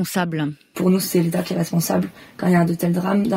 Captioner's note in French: Voix d'une jeune femme